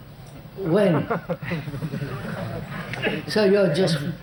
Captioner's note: laughter